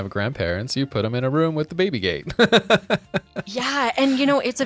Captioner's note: laughing